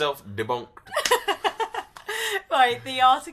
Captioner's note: laughs loudly